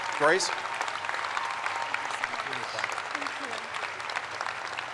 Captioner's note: crowd applauds